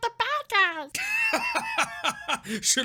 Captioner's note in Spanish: wheezing.mp3